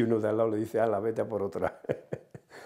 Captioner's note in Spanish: Ríe